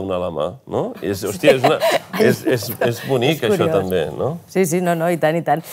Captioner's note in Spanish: ríe